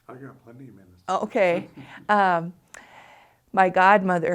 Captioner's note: interviewer chuckles